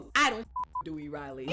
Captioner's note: beep